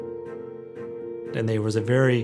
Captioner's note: none